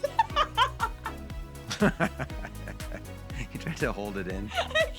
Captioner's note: laughing